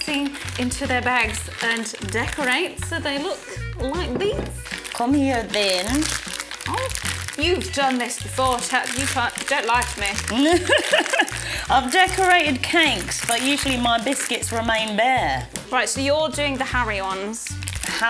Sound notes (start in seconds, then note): 6.3 bag crinkling; 10.4 laughs